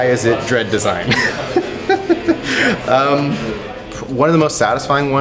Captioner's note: laughing